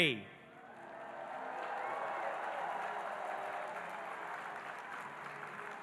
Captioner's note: audience cheering and applauding